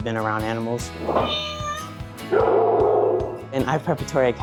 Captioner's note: cat meows, dog barks